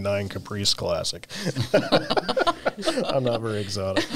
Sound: laughs

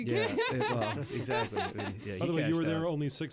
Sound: laughing

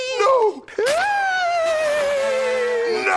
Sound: moaning

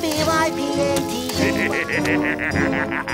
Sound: laughing

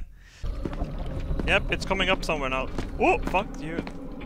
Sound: floor gurgles

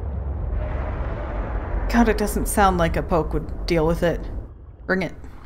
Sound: roar

